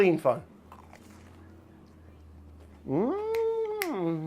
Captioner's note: bread crunching